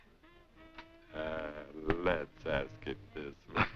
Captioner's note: laughing